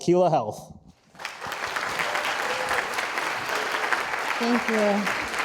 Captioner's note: audience applauding